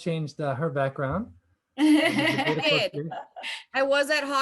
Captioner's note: laughter